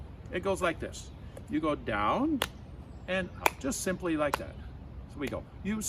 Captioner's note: clap